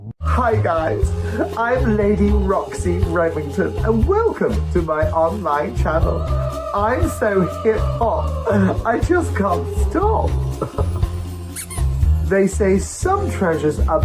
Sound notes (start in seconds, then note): 10.3 comedy squeak